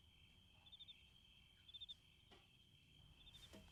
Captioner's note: crickets chirping